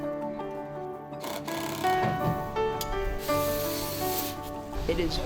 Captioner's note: drill sounds